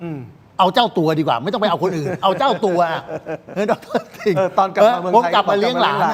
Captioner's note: laughs